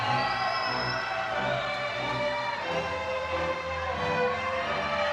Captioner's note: crowd cheering